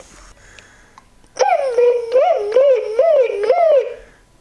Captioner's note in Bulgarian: Бърборене